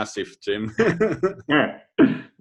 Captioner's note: laughs